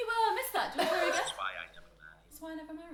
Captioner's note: laughing